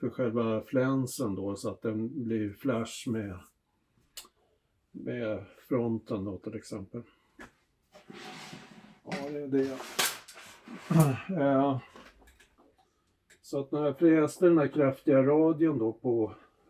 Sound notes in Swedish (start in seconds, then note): 11.7 harklar sig